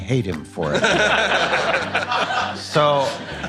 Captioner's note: people laughing